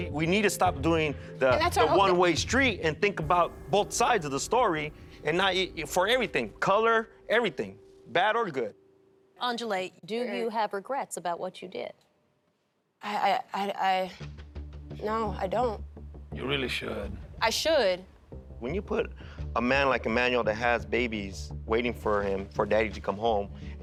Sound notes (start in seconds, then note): 13.2 stuttering